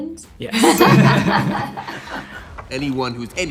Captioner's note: all laugh